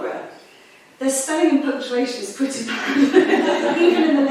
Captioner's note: laughs; audience chuckling